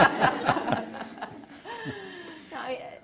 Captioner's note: audience laughing